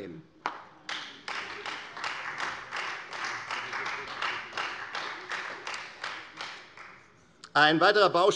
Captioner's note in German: Beifall Freie Demokraten und vereinzelt SPD